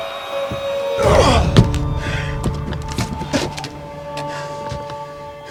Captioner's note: henchman groans